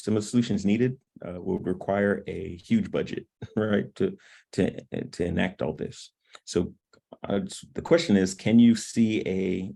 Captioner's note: laughter